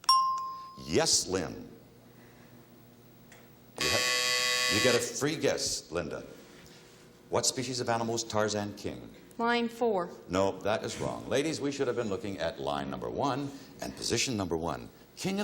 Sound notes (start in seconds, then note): 0.1 bell chimes; 3.2 timer buzzes